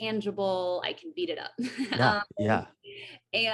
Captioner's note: AJ laughs